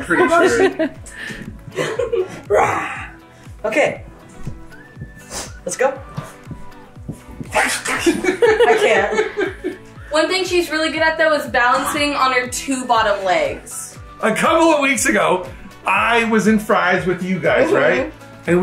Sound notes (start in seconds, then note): 0.0 laughing; 2.7 makes playful roaring noise; 7.4 laughing